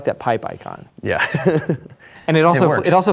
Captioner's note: chuckles